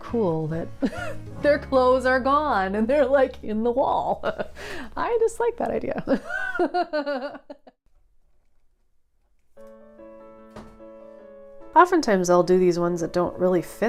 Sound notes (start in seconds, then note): 6.1 laughing